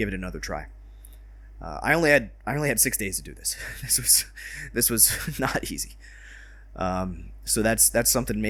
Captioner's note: exhausted laughter